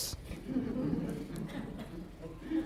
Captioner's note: laughter